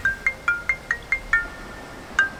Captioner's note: phone rings